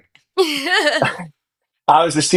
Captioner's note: laughs